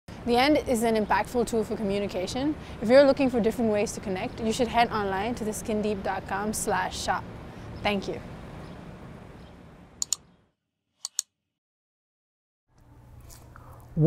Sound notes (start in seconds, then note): 10.0 button clicks